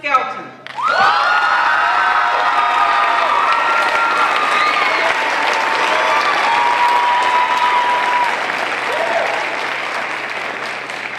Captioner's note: crowd cheering